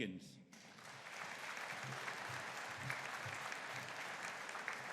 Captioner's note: audience applauding